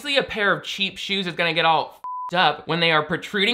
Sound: beep

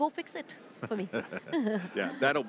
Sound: laughter

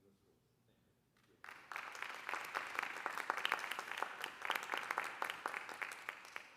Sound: applause

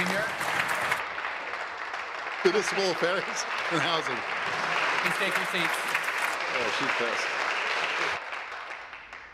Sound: applause

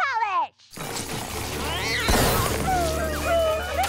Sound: screeching

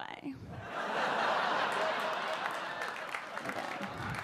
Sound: audience laugh

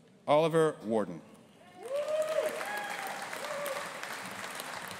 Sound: audience applauding

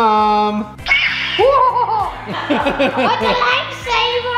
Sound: laughter

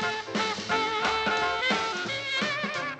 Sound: none

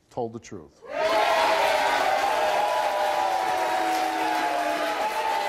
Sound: audience cheers and claps

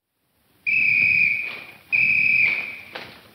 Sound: whistle tweeting; shoes clacking

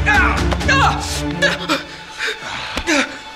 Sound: cries of pain and fear

